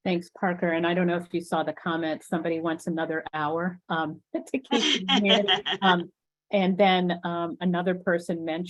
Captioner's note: laughter